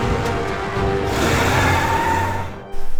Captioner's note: car moves